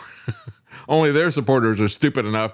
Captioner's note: laughs